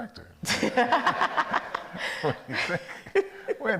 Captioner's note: all laugh